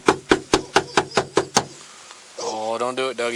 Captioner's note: more barking in background